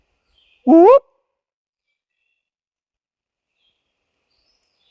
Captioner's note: whooping